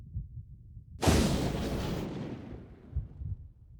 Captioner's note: low Rumbling; crackling, Rumbling; low Rumbling Continues